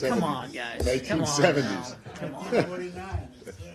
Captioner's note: laughter